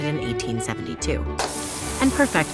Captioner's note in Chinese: 灑水器灑水聲